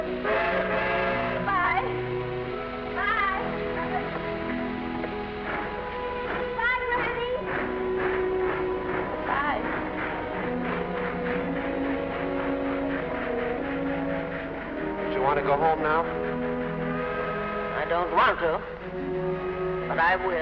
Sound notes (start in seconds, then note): 0.1 train horn toots; 10.2 gentle music; 10.2 train chugging